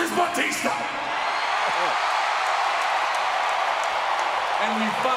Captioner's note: crowd cheering